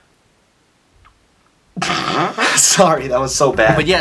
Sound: breaks into laughter

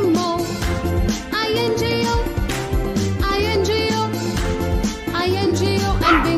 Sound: clap

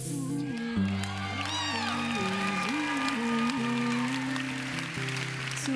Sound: applause

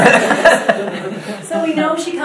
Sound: audience laughs

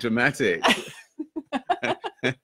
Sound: laughing

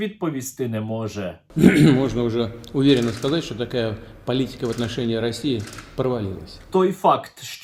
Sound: clears throat

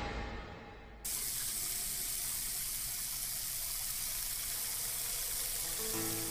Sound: water runs

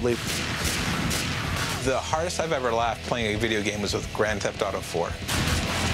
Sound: gunshots

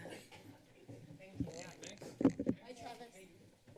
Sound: mic noise; footsteps

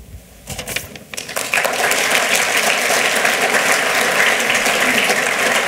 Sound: applause

